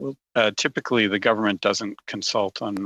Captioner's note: speaking French